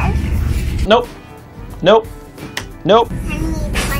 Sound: claps

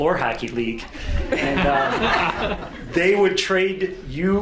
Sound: audience laughs

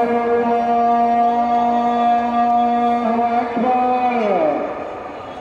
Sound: man speaking in foreign language; crowd cheering

